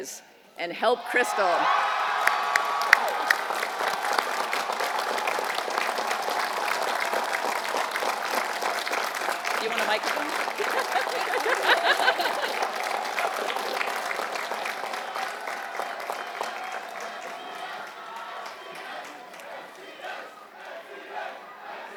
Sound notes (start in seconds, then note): 4.4 applause; 4.4 laugh; 13.0 applause